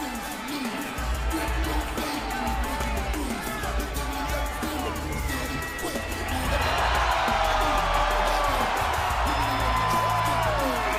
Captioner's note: crowd cheering